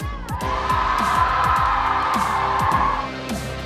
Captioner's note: crowd cheers